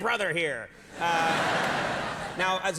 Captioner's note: audience laughing